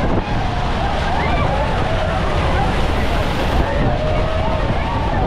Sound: crowd cheering, getting soaked

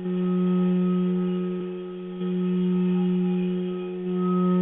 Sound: vibrating tone

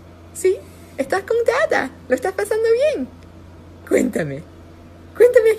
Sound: speaking foreign language

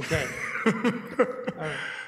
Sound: laughing

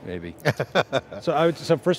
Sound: laughing

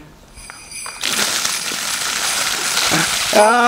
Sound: bells jingling

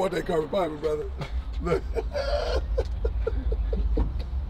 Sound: laughing

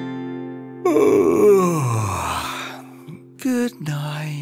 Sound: yawning

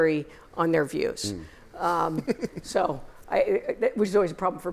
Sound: laughter

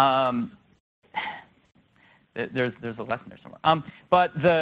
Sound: laughs, sighs

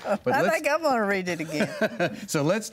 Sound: laughs

